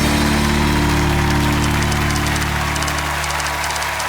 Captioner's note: cheers and applause